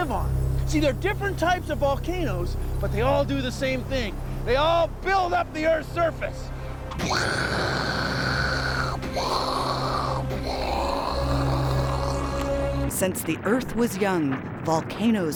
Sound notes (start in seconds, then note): 6.9 imitating explosions